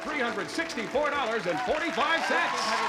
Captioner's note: applause, cheering